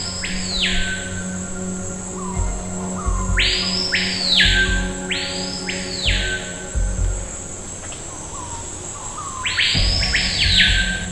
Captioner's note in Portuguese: som de pássaros